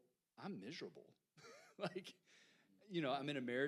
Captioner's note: chuckles